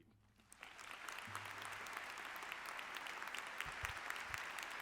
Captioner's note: audience clapping